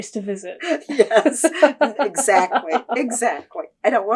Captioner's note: laughter